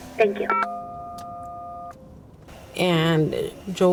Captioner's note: phone beeps